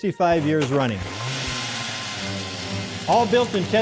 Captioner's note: engine growling